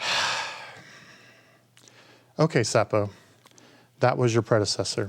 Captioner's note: sighing